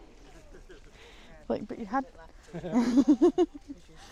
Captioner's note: laughter